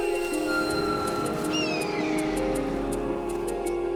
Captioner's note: cawing